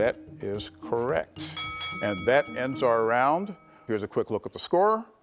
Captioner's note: bell chimes